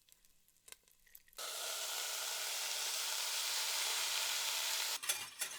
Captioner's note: sizzling sound